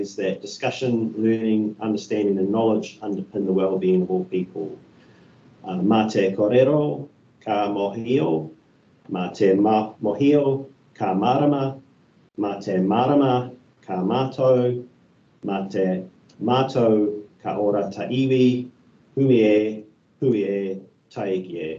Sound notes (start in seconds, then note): 6.5 speaking in te reo Māori